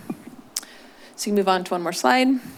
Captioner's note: clucks